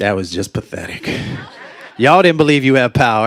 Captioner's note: laughter